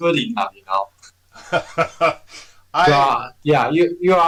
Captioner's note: laughs